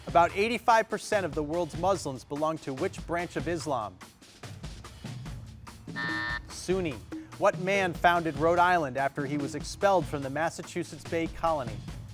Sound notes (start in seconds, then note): 5.9 buzzer sounding